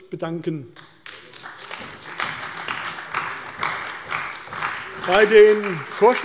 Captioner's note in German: Beifall bei der CDU und dem BÜNDNIS 90/DIE GRÜNEN